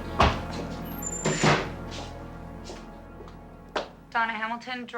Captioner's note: door slamming